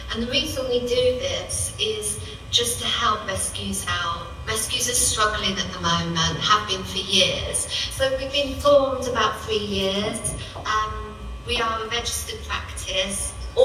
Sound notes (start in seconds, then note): none